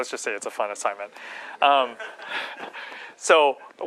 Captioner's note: laughter